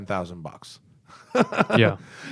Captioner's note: laughter